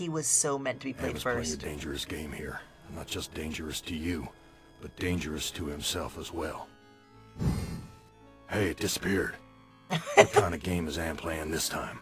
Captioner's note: laughs; Imitating Gorrister